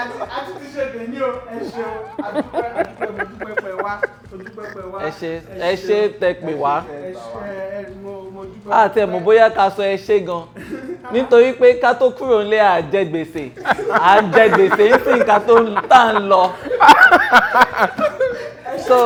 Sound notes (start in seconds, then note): 13.6 everyone laughs